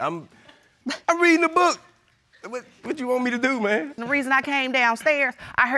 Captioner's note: none